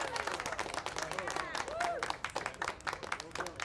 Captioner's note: applause; cheers